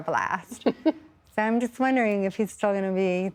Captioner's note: laughter